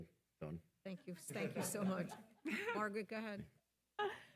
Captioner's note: attendees laughing